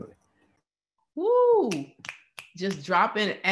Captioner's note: snapping fingers